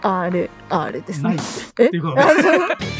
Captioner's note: laughs